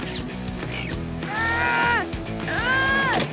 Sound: groaning

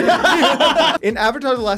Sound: laughing

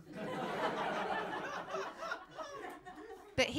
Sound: laughter

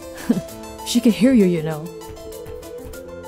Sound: laughs

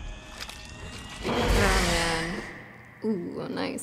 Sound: dramatic music rises; Demogorgon roaring

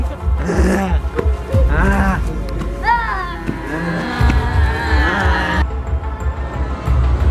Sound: zombie noises

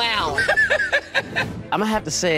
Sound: clown laughs

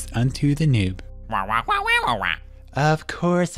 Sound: squawking

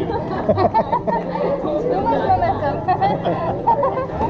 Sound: laughter; laughter

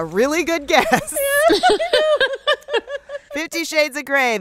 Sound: laughter

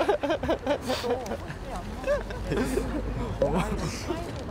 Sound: haha

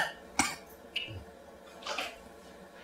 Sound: coughs

